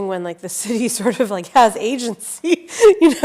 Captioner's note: laughs